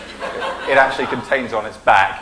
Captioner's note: laughing